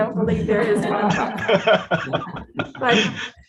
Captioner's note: group laughs